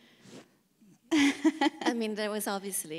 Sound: laughs

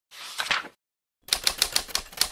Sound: page flips; typewriter

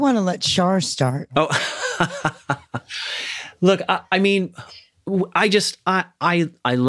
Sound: chuckles

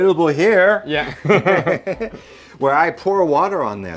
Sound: laughing

